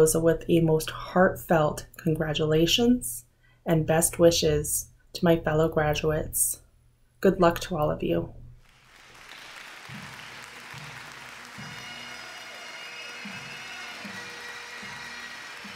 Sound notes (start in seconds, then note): 8.6 audience cheers and applauds; 12.1 jubilant bagpipe music